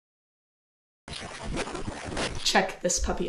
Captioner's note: radio static